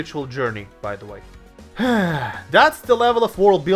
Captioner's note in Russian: вздох